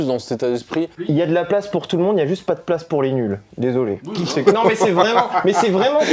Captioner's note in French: rires